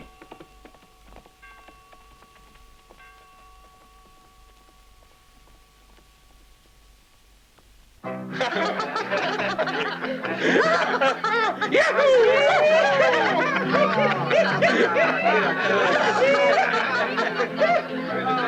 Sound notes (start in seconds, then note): 2.9 bell clanging; 8.0 Lucky laughing; 8.0 bright music; 12.0 bandits whooping